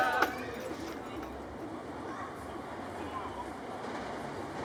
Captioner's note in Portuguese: vozerio distante de crianças; barulho de trem